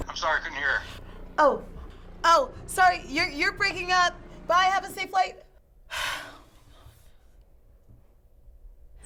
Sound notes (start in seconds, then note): 5.7 sighs